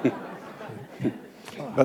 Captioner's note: laughter